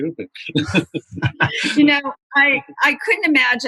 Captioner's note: laughter